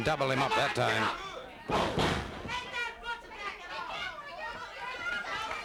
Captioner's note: crowd yelling